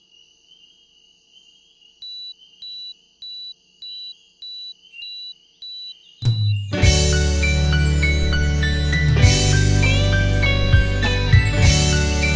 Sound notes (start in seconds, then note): 2.2 alarm beep